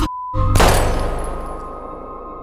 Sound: gun fires

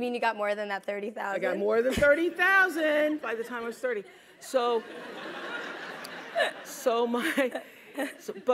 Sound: laugh

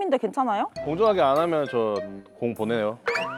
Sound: threatening

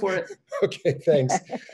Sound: laughs

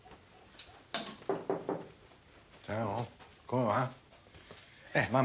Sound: knocking at the door

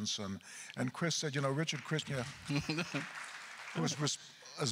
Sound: applause

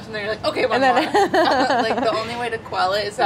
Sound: laughs

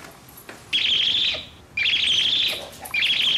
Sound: tribble sound

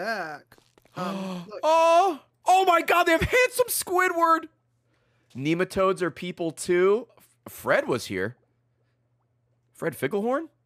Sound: gasps

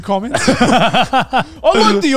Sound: all laugh

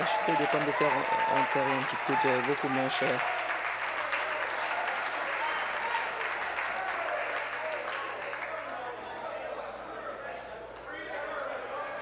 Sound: applause

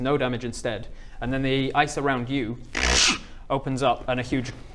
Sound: crrrk

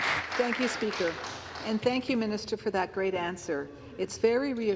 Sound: applause

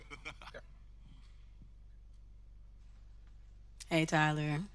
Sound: laughs

